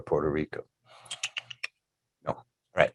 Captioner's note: tutting